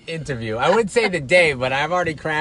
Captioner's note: chuckles